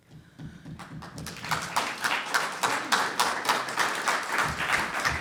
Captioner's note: audience applauds